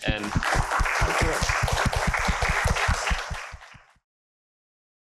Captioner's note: applause